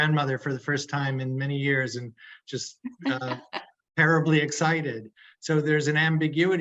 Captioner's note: laughing